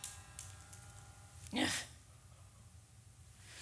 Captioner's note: frustrated groan